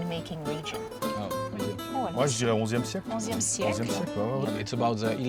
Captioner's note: speaking native language